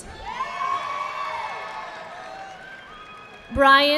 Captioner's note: audience clapping